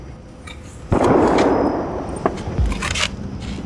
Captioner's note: distant gunshot